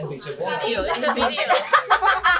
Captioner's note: laughs